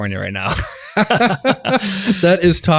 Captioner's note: group laughs